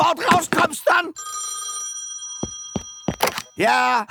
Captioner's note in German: Telefon Klingeln